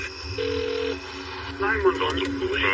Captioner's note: line ine trilling